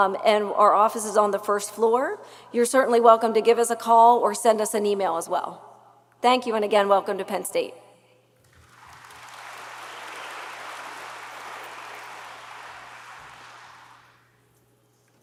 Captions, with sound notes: and our office is on the first floor. You're certainly welcome to give us a call or send us an email as well. Thank you, and again, welcome to Penn State. (audience applauds)